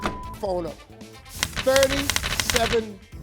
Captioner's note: ticking